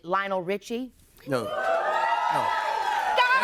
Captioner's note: cheers and applause